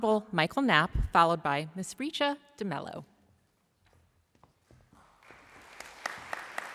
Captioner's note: applause